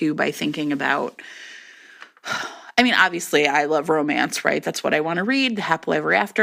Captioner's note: sighs